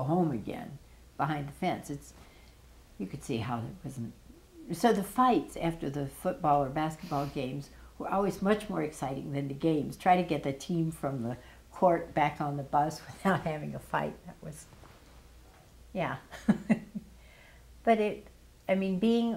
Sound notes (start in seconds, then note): 16.4 chuckle